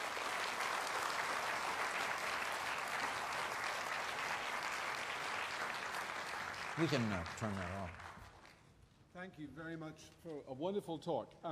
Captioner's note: applause